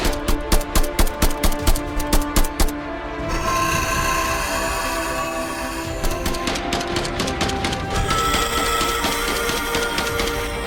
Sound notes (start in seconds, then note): 3.2 beast shrieks; 6.5 gun blasting; 7.9 beast shrieks